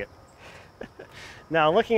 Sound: laughing

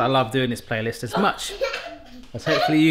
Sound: daughters giggling

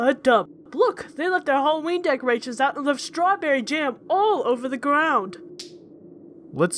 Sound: smack

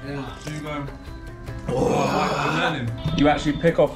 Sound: slurps coffee

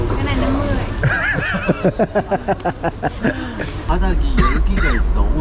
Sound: laughing when refusing

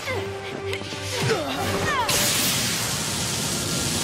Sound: grunting

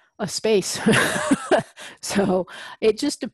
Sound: laugh

